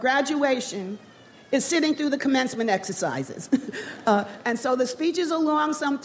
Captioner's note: laughing